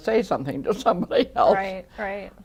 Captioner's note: laughing